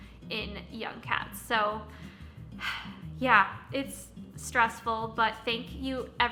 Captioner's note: gasp